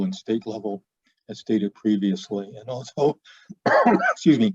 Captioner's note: coughing